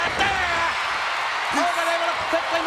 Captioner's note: audience cheering